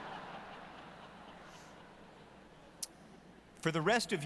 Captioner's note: laughter